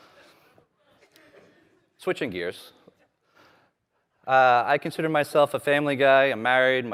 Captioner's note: laughter